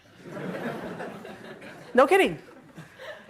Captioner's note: laughing